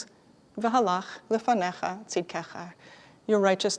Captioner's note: Hebrew